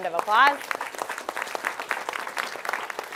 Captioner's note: applause